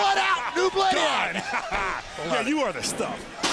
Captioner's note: laughs